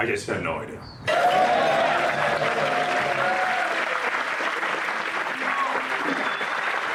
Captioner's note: audience applauding; audience cheering